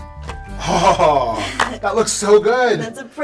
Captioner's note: laughs